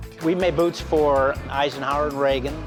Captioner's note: none